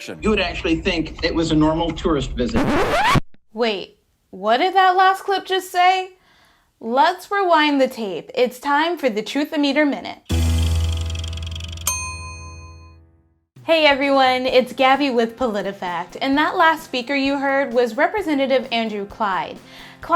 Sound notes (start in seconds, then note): 10.7 bell dinging